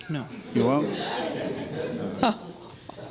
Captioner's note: laughing